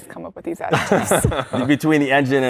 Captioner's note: laughter